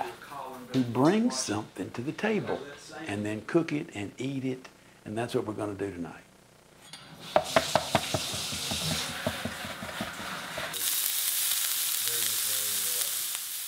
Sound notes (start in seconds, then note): 7.4 tapping; 10.5 sizzling